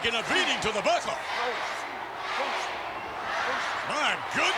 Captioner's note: crowd counting